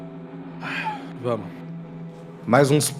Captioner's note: sighs